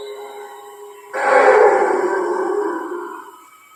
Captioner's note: roaring